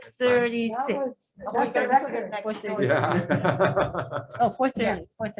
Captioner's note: members chattering